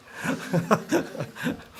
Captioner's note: laughter